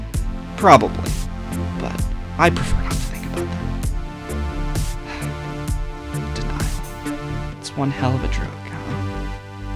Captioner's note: sighs